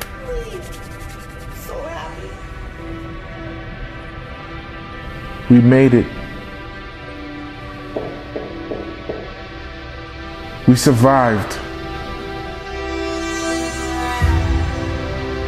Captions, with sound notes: We made it *knocking* we survived